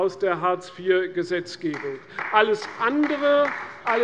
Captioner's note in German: Beifall bei der CDU